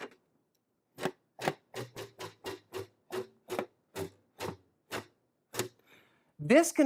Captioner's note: more scrapping